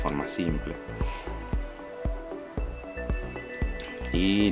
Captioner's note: typing